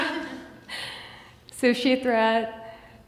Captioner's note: laughs